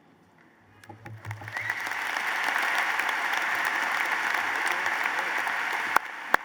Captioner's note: applause